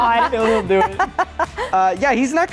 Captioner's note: group laughs